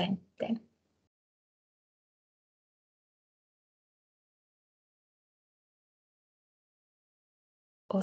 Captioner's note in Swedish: Tystnad